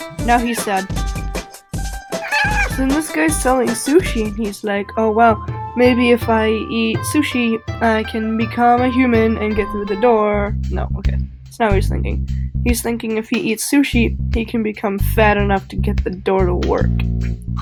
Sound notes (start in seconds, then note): 2.2 unidentifiable cat noise